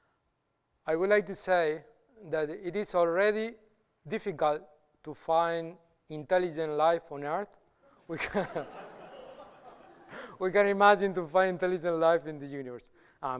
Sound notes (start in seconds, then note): 8.1 laughter